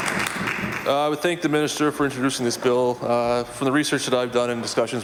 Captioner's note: applause